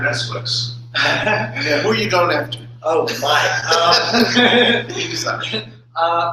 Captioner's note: laughter